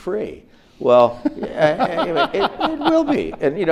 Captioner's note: audience laughs